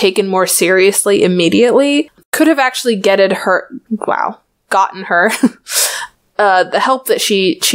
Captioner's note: laughs